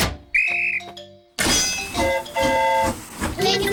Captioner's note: blows whistle; train horn toots